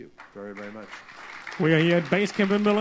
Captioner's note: applause